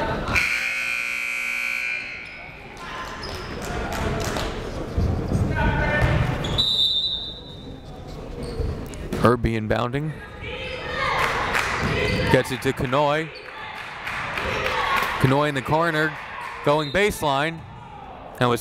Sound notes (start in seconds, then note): 0.3 buzzer blaring; 6.4 whistle blaring